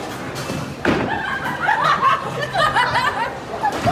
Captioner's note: laughter